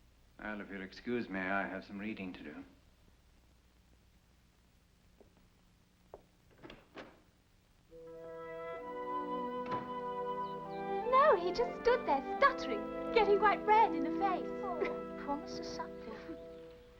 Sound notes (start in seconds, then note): 6.5 door opens; 7.9 door closes; 7.9 sentimental music